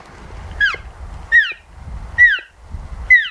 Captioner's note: cow mew